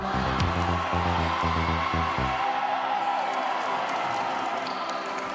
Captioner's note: cheers, applause